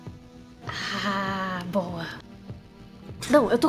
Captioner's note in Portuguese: cochichando